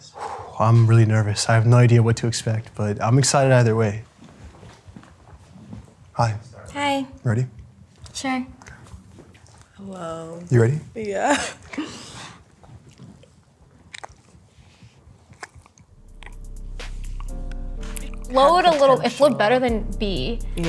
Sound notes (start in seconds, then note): 4.1 foot steps; 15.2 lips smacking